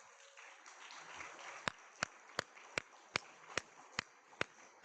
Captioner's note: all clapping